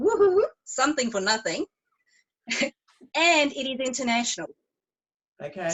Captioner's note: chuckles